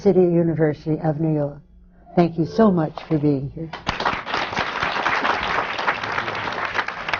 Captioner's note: applause